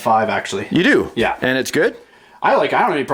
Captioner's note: voiceover